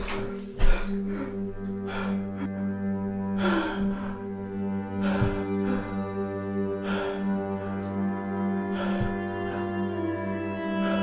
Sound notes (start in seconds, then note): 6.0 heavy breathing